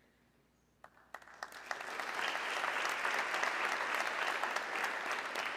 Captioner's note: audience clapping